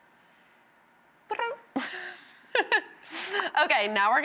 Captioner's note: laughing